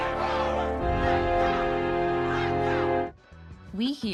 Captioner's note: cheering